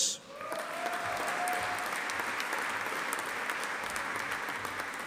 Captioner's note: audience applauding